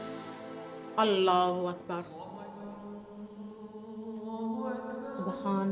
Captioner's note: speaking foreign language